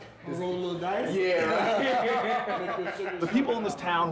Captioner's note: laughing